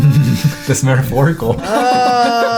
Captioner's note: laughs